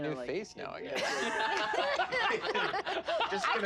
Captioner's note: laugh